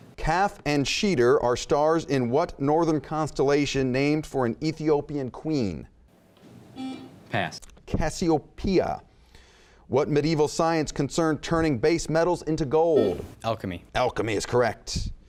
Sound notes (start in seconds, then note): 6.9 buzzing; 13.1 buzzing